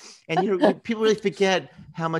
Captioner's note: laughs